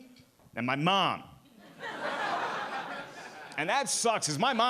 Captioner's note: audience laughing